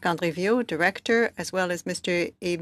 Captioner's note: speaking French